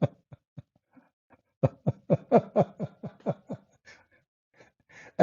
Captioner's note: Ketawa